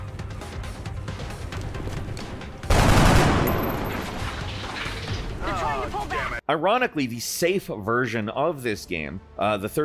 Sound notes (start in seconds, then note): 2.6 gun blasting